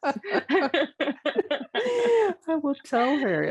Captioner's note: laughing